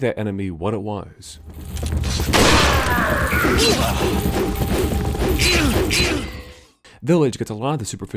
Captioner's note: gunshot and aggressive swipes